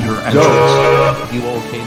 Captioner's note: horn sound